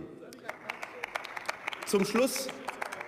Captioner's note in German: Beifall